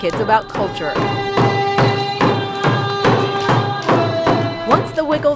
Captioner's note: Chanting in Tlingit